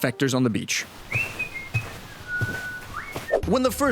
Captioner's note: carefree whistling